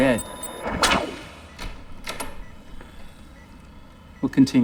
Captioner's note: door opens